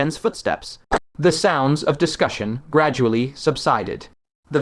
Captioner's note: the sounds of discussion gradually subsided